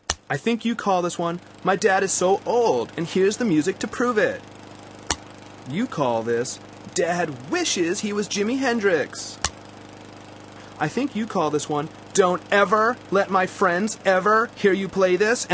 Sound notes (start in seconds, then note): 1.8 mocking; 6.9 mocking; 12.4 mocking